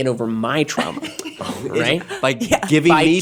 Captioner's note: giggling